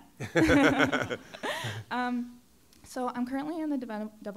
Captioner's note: laughter